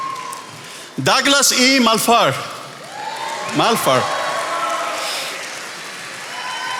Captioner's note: attendees applauding